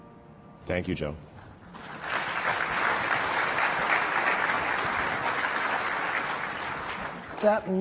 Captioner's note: applause